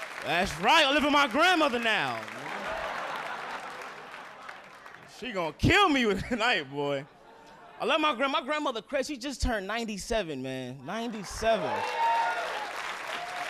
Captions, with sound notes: That's right, I live with my grandmother now. (audience laughing) She gonna kill me with the night, boy. I love my grandma. My grandmother crazy, she just turned 97, man, 97. (audience cheering)